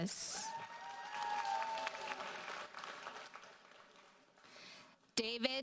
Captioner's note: audience cheers and applauds